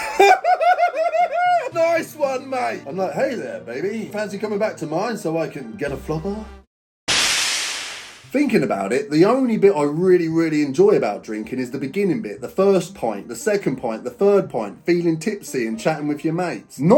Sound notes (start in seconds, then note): 0.0 manic laughing; 7.1 air swooshing